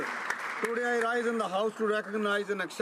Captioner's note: applause